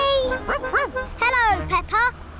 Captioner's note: laughs; barks